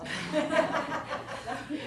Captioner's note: laughing